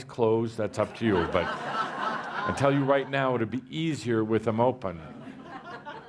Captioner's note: laughter